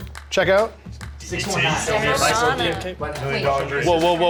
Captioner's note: players chattering